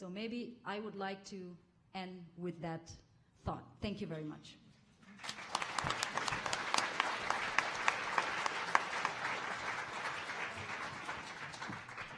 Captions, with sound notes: So maybe I would like to end with that thought. Thank you very much. [audience applauding]